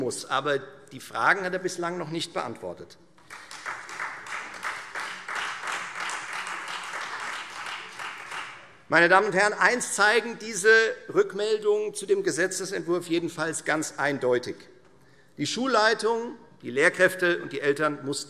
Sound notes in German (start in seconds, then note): 3.2 Beifall Freie Demokraten